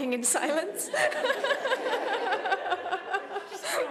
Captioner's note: laughter